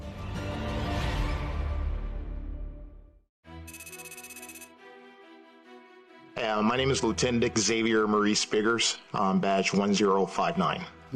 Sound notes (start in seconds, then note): 0.1 dramatic music; 3.6 tense music; 3.7 text clicking